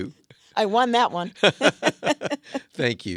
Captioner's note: laughs